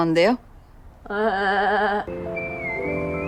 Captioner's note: A goat sound?